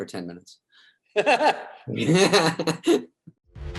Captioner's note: both laugh